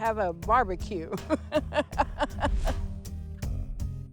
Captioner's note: laughs